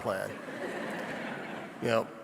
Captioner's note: audience laughing